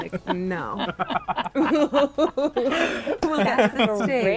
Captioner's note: everyone laughing